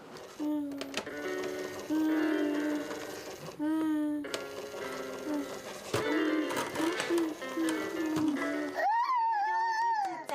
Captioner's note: cheers; sound of a toy